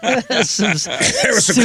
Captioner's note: laughing